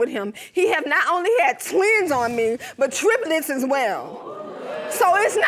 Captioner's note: audience exclaiming